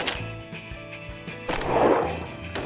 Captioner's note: none